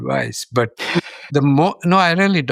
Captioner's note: chuckles